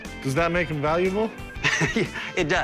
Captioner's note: laughs